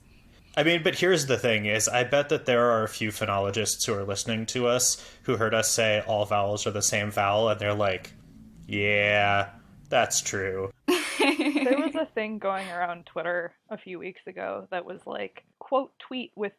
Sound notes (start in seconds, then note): 10.9 laughs